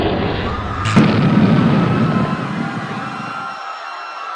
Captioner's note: people screaming